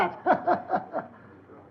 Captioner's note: chuckling